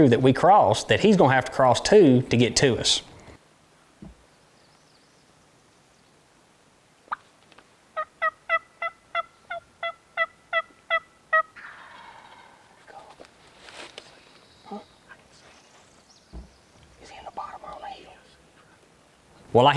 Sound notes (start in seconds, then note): 7.9 turkey calling